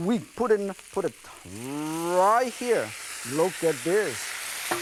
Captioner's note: food sizzling